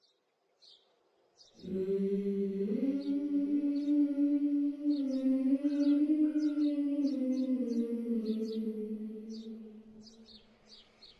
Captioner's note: birds chirp as the Elderly Woman hums